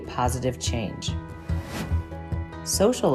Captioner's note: gentle upbeat music; graphic whooshes